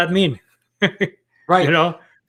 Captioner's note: chuckles